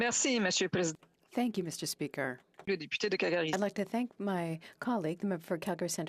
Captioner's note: speaking French